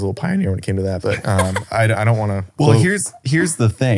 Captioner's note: laughs